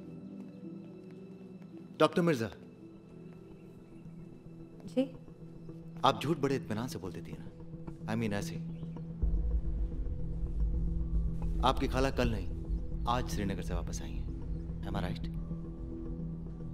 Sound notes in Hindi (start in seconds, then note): none